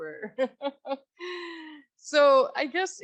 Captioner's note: laughs